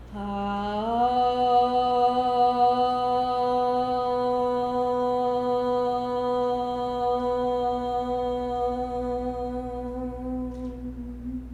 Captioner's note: chanting